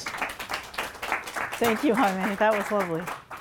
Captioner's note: audience applauding